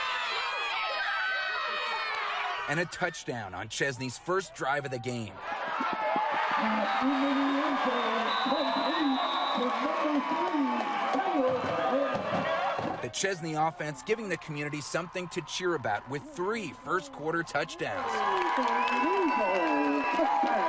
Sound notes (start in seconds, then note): 5.4 NATS: Screaming kids; 9.6 NATS: Screaming kids; 13.6 NATS - touchdown